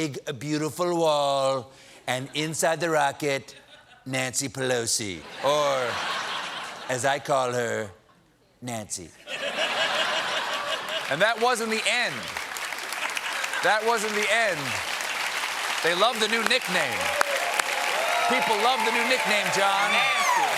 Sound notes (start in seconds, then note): 6.1 laughter; 16.0 applause